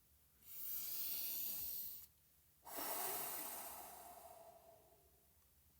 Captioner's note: deep breath